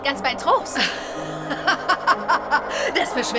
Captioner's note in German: Die Urahnin lacht